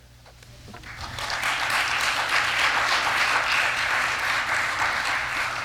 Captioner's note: applause